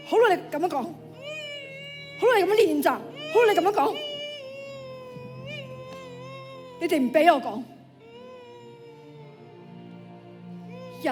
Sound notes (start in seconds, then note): 1.4 sobbing; 4.0 sobbing